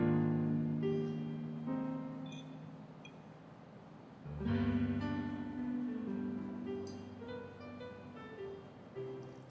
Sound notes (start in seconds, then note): 2.3 glasses clinking; 4.2 gentle piano music